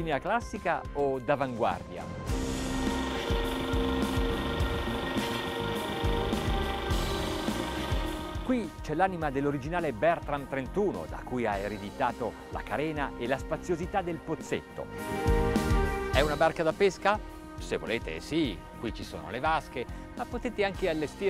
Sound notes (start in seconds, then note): 2.3 engine rumbling